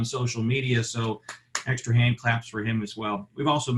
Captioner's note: clapping